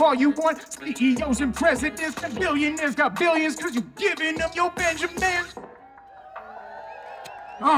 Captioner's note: audience cheering